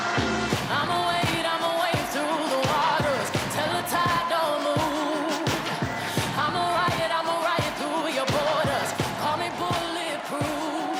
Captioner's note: cheers and applause